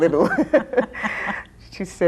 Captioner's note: both laughing